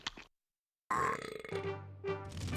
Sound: belching

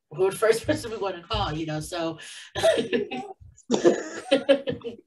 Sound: laughs

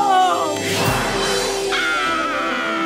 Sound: screaming

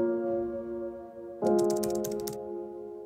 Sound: typing

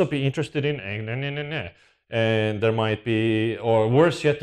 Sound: speaks gibberish

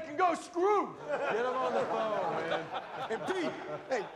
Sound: laughter

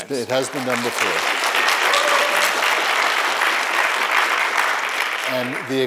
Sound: applause

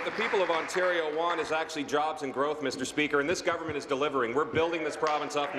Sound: applause

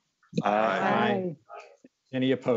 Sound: multiple voices

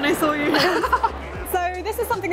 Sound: laughing

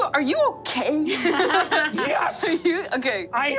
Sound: players laughing

